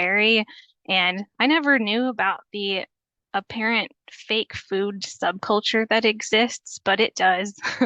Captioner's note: chuckles